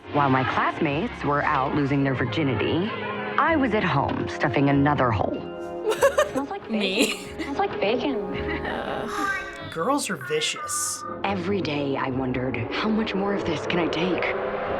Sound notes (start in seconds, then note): 5.7 chuckles; 5.7 laughs